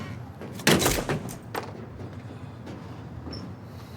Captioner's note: wood smashing